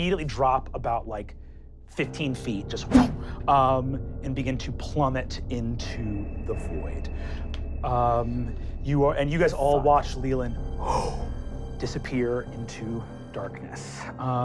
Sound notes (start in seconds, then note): 2.8 wooshing; 10.8 gasps